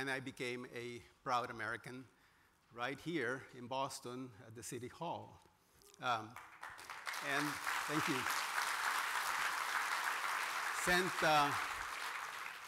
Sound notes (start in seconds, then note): 6.2 applause